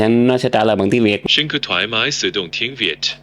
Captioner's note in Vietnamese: Giọng AI